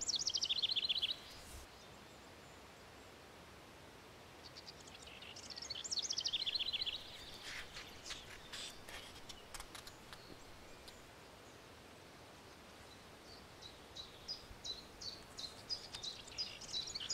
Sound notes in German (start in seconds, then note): 13.2 Gesang eines Zilpzalps